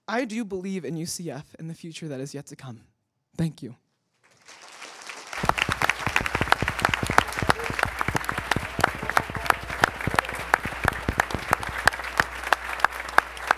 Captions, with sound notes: I do believe in UCF in the future that is yet to come. Thank you. (attendees applauding)